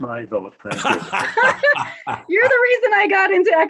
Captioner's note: laugh drowns out speaker